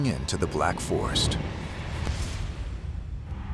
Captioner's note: whoosh; explosion